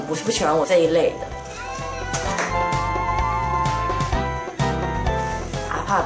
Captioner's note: mew